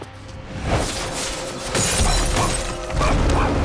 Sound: shattering; grunting

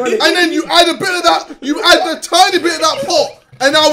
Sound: all laughing

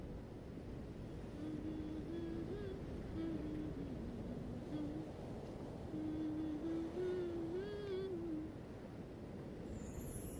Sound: Sneha humming old hindi song

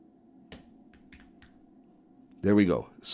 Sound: keyboard clacking

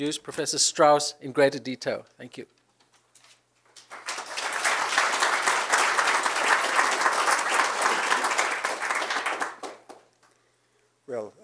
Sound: applause

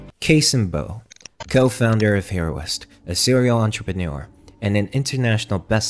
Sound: glitch sound effects

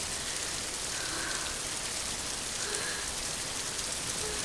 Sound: sigh of relief

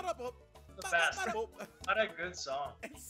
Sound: laugh

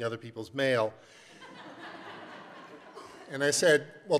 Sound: laughter

